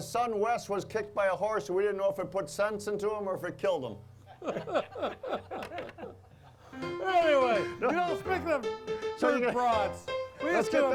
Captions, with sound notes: We didn't know if it put sense into him or if it killed him. (all laughing) (upbeat piano music) - Anyway, you know, speaking of brats. - Let's get those on the kettle, on the grill.